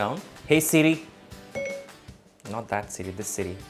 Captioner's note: beeping